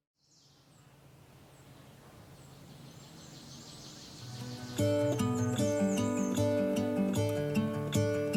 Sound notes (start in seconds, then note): 0.2 birds chirping; 4.0 calming music